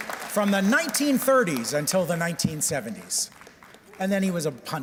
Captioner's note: applause